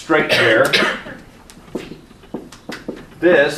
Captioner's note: marker thudding